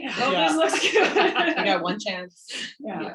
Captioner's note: laughs